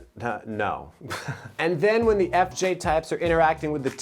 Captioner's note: giggles